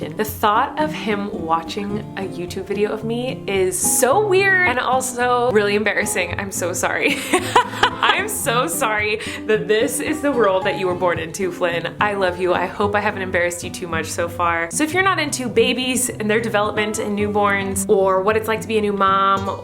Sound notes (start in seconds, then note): 7.1 laughing